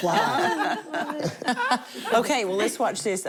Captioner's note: laughter